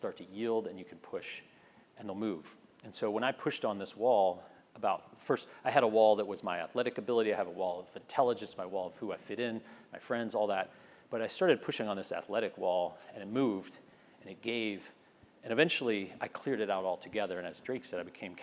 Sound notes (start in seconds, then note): none